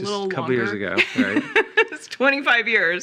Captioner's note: laughing